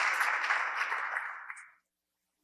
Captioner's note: audience applause